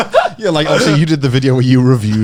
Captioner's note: laughing